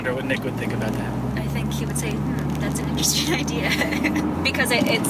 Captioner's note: laughing